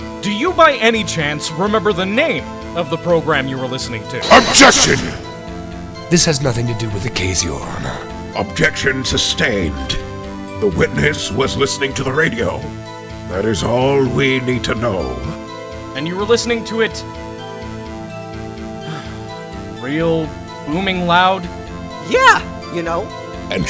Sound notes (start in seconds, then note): 18.8 sigh